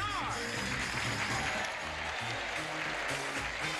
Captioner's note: cheering